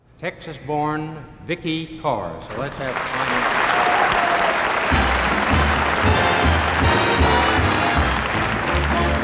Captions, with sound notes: - TEXAS BORN, VIKKI CARR. SO LET'S HAVE A FINE HAND FOR HER. (AUDIENCE APPLAUDING) (UPBEAT MUSIC)